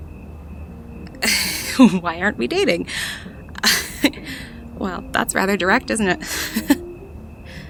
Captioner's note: laughs